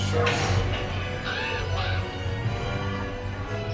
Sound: crow caws

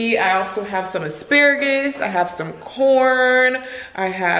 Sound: none

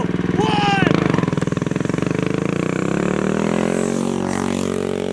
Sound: engine roars

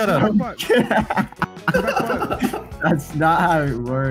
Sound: men laugh

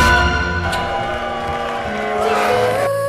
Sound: clock chiming

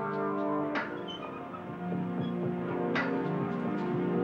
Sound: door squeaks

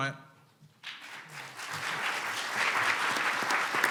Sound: clapping

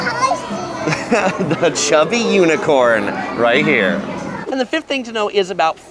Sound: laughs

